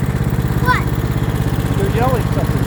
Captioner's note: lawnmower throttle reduces